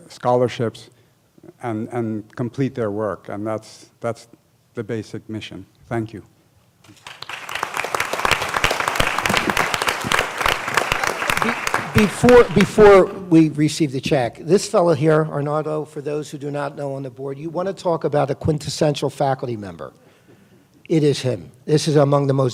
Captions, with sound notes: scholarships and complete their work and that's that's the basic mission thank you [applause] before before we received the check this fellow here Arnaldo for those who do not know on the Board you want to talk about a quintessential faculty member it is him this is among the